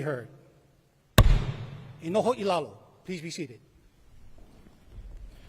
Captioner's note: gavel bangs once